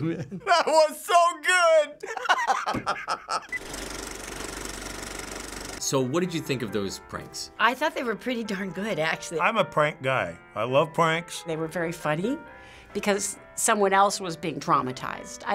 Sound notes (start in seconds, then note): 2.0 laughing; 3.5 movie reel clicks